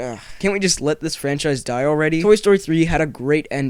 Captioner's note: sigh